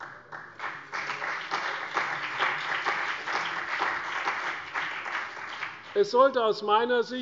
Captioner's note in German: Beifall CDU, BÜNDNIS 90/DIE GRÜNEN, vereinzelt AfD und Freie Demokraten